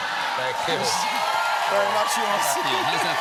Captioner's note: applause